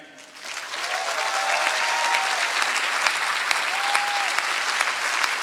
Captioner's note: applause